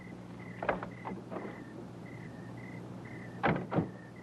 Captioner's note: crickets chirping